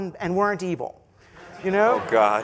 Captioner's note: laughter